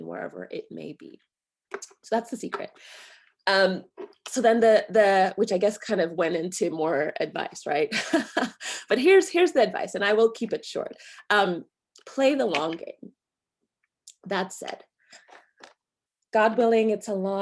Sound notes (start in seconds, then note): 7.9 chuckles